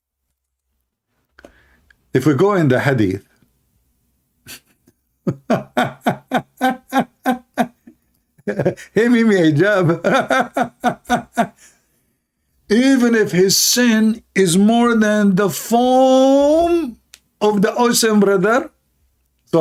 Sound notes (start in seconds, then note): 5.2 Ketawa